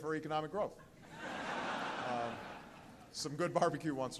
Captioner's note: laughter